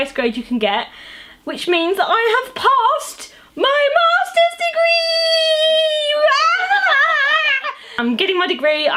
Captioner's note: laughs